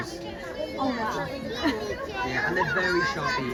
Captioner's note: laughs